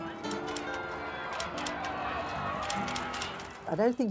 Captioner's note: crowd clamoring